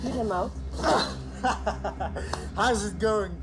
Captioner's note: laughs